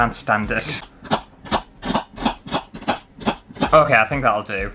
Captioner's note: fast Chopping